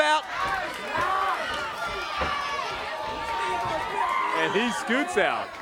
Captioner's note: crowd chatter